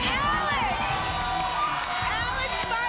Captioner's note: applause and cheering